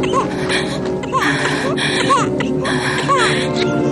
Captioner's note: baby crying; woman whimpering